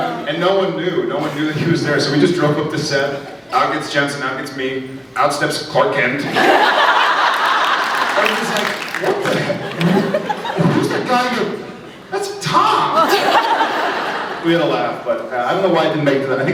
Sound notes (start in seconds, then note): 6.2 laughs; 9.8 applauds; 12.6 laughs